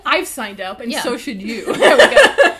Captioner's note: laughs